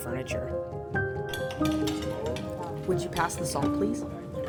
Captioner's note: cutlery sounds, soft chatter